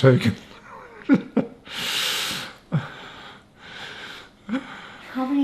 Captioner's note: laughing